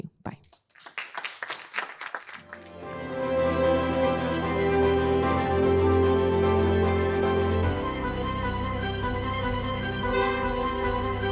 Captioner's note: applause